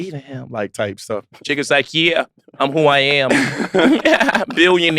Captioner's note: laughs